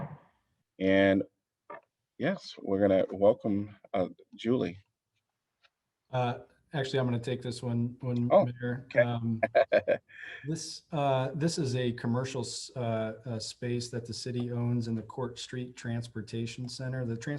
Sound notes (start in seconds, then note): 9.3 laughter